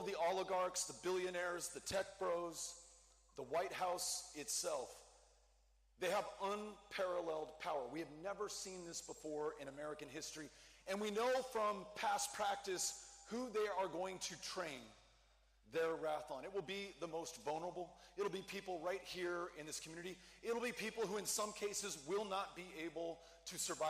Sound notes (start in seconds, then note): none